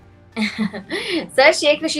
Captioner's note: laughs